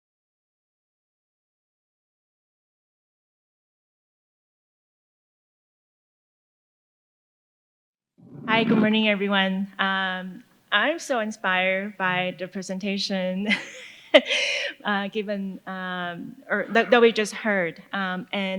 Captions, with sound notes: - Hi. Good morning, everyone. I'm so inspired by the presentation (laughs) that we just heard.